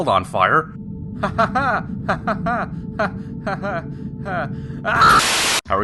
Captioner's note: uncomfortable laughter